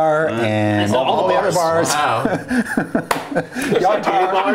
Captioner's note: laughter